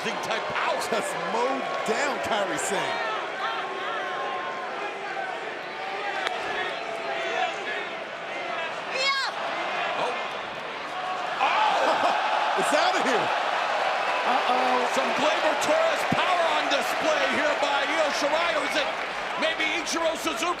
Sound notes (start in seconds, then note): 2.5 crowd chatter; 4.6 crowd cheering